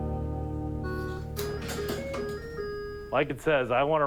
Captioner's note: pinball noises